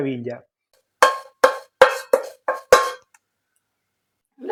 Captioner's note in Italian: cucchiaio che gratta la pentola